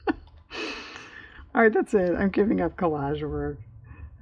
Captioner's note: laughs